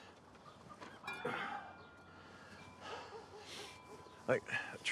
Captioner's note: Abe groans and sighs